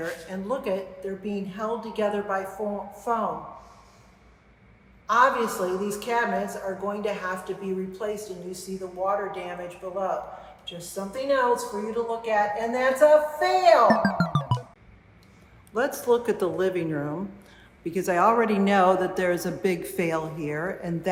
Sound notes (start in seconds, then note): 13.9 electronic beeping